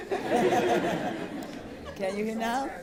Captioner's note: laughter